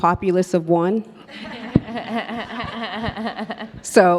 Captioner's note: all laugh